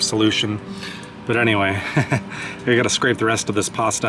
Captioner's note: laughter